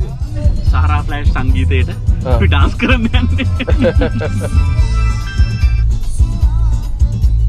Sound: laughing

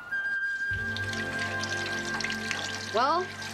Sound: water Running

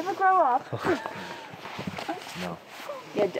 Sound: laughing

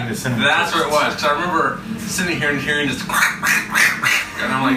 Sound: imitates aggressive crunching noises; giggle

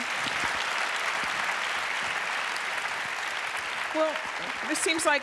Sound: applause

